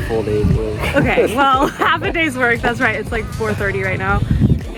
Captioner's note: haha